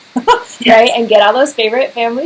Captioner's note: both laughing